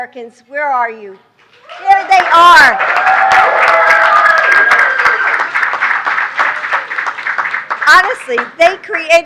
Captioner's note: applause